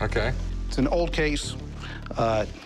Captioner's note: none